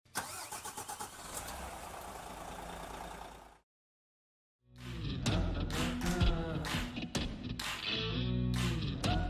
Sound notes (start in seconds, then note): 0.2 engine revs; 4.7 upbeat music